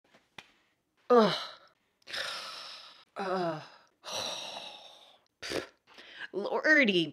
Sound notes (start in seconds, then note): 0.1 sighs in frustration